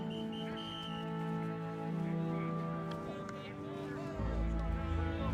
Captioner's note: chatter on the field